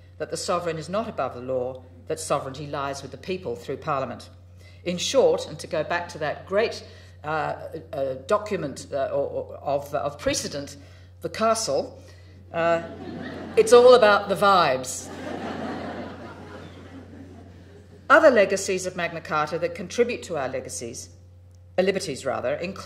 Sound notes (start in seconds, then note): 15.0 crowd laughing